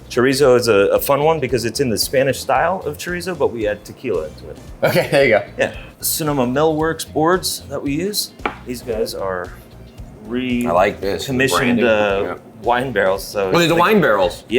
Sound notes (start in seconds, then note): 4.8 chuckles